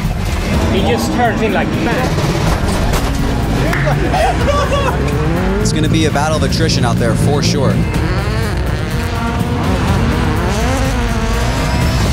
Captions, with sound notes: He just turns in like, bam. (laughing) - It's gonna to be a battle of attrition out there for sure. (engines revving)